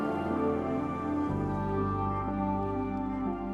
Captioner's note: phone vibrating